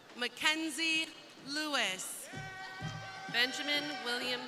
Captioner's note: crowd cheering